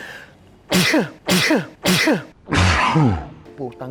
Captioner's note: sneezes